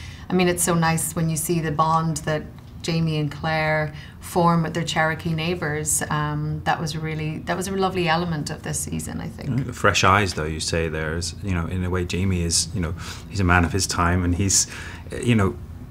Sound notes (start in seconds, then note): none